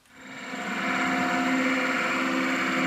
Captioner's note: rattling